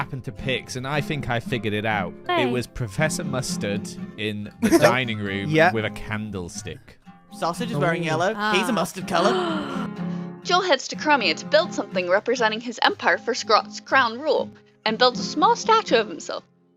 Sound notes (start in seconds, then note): 4.6 laughs; 9.1 gasps